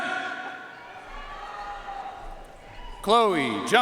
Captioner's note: audience cheering and applauding